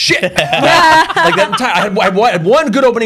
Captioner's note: laughter